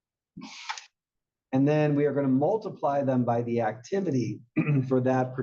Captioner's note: cough